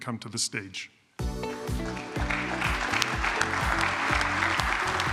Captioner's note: applause,music playing